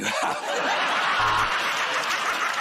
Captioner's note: buzzer buzzes; laughter